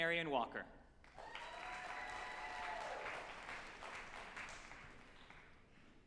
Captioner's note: group applauding and cheering